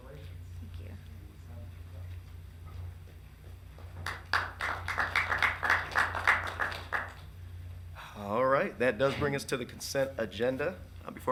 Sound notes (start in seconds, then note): 3.8 audience clapping